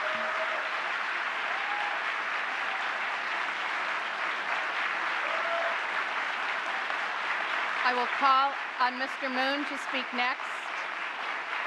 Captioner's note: applause